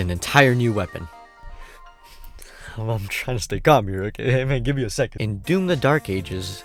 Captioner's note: excited noise